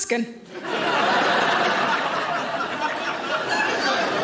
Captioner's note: audience laughing